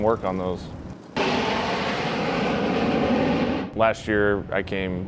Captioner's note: planes roaring